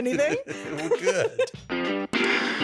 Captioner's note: laughs